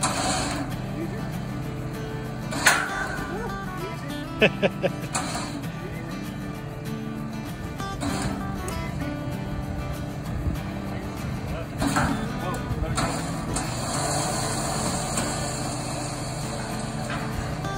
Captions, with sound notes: Easy ... Woah! Easy ... [Laughs] Easy ... Easy ... Woah! Back it up. [Sound of winch unwinding]